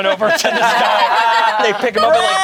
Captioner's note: everyone laughs